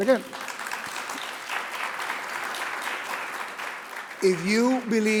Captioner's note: audience applauding